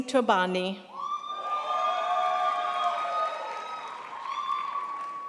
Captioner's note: crowd applauds